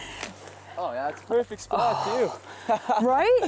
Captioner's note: laughs